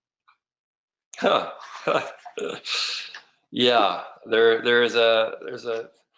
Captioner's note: laughs